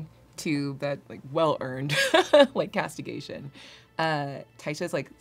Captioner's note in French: rires